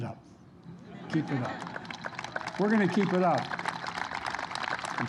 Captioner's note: laughter; applause